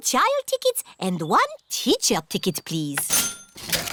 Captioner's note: cash register dings